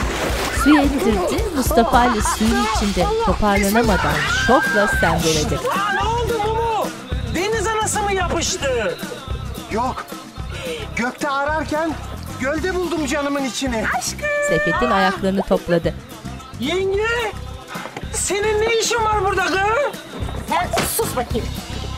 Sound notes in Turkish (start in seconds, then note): 0.2 Çığlık sesi; 4.0 Çığlık sesi